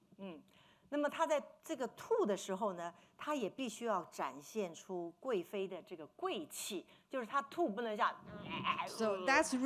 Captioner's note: speaking Mandarin